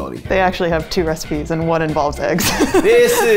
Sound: laughing

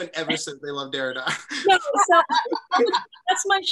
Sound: laughter

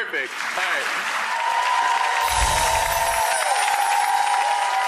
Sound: audience applause

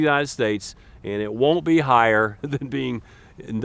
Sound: chuckles

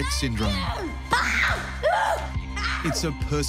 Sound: screaming

